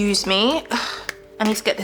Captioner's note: sighs